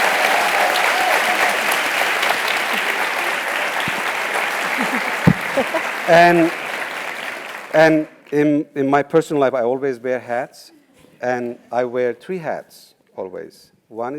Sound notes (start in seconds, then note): 6.4 applause